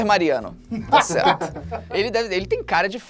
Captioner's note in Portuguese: risadas